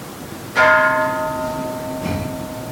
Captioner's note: Kansho ringing